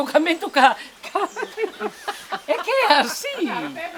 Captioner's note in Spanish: risas